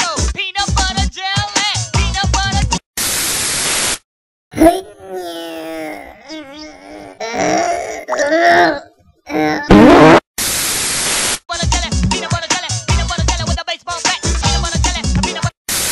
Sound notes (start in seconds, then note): 4.6 grunts